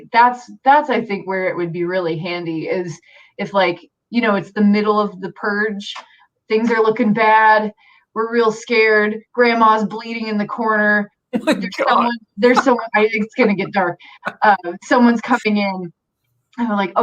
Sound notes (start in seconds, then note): 11.3 laughs